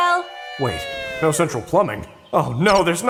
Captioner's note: Rudy Voiceover